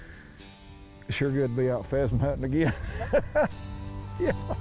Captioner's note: laughs; country music continues